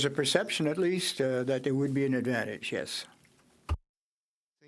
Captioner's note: speaking French